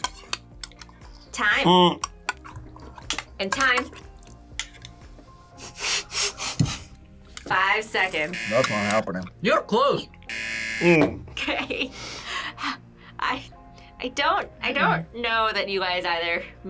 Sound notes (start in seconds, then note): 5.7 laughs; 8.2 buzzer rings